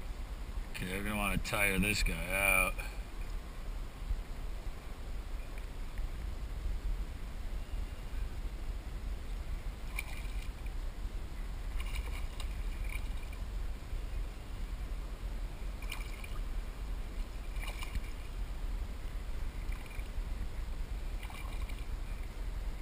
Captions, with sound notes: OK, I'm going to want to tire this guy out [Splash] [Splash, splash] [Splash] [Splash]